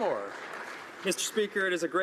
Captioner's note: some Applause